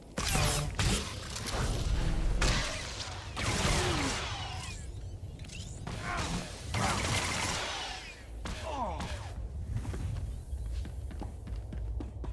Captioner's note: gun firing